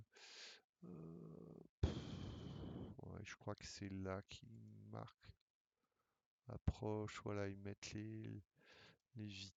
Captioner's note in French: soupir